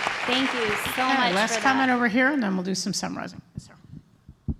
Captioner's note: applause